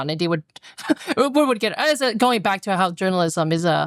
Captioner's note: laughter